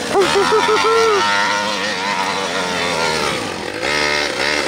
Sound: laughs

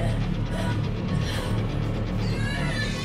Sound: dramatic music playing; groans

